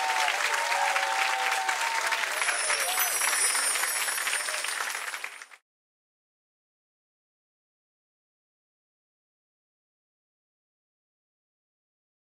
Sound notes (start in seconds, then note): 2.2 bells chiming